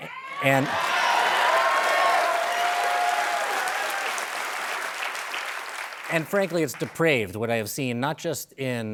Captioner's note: applause